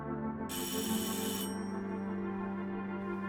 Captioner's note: bell rings